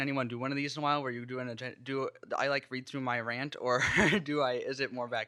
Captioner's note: laughs